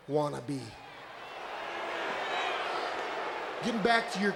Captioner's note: audience booing